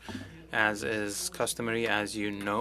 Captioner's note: speaking French